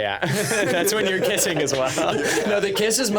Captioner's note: laughing